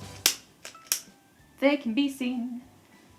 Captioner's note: lighter clicking